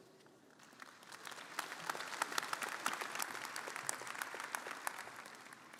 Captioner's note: audience applauding